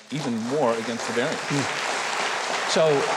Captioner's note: audience applauding